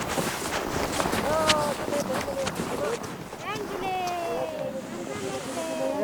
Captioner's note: speaking foreign language